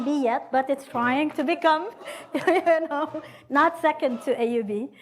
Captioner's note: laughs